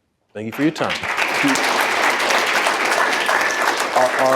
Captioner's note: applause